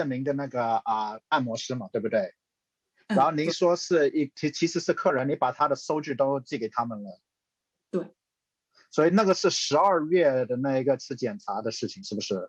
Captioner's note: speaking chinese